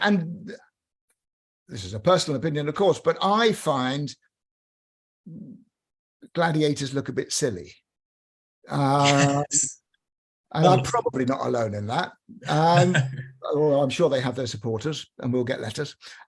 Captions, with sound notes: And... this is a personal opinion, of course, but I find gladiators look a bit silly. Yes. [giggles] I'm probably not alone in that. Though I'm sure they have their supporters, and we'll get letters.